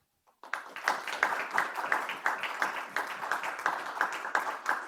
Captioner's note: audience clap